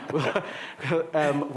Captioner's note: laughing